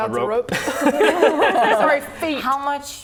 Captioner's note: laughing